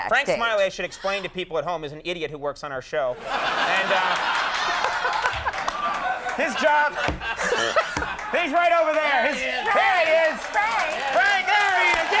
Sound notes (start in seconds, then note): 3.2 audience laughing; 6.3 Conan laughing